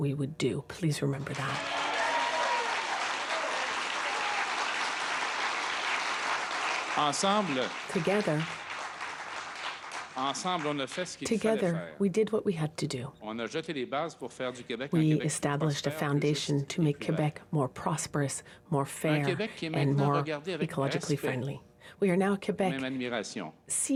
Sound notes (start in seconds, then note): 5.5 applause